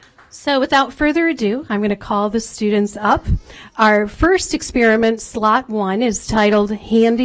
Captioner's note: applause